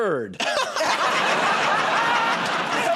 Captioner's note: laughter; applause